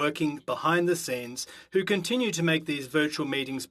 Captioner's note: speaking French